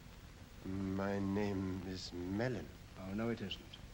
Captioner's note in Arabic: صوت يرتجف